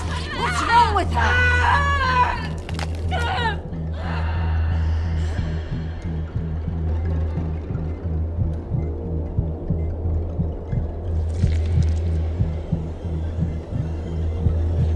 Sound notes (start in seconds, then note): 2.0 Christine screaming; 2.6 stomach crunching; 4.2 tense ominous music; 11.1 ooze squelching